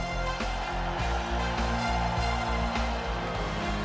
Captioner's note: crowd cheering